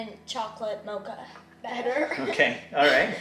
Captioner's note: laughs